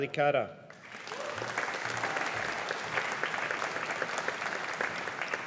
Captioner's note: audience applauding